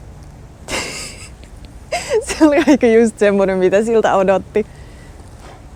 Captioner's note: laughing